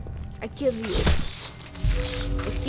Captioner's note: unknown accent